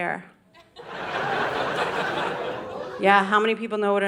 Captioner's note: audience laughing